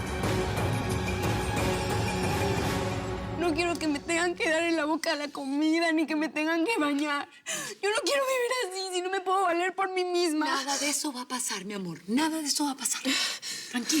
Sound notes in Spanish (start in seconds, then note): 4.1 sollozos